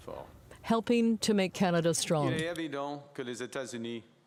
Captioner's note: speaking French